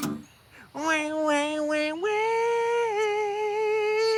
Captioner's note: imitating chainsaw